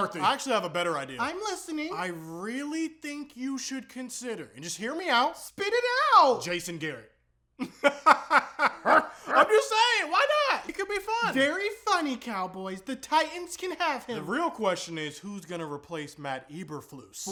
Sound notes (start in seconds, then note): 7.6 even weirder laughing; 7.6 laughing